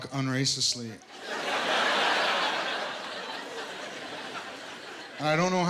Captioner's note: laughter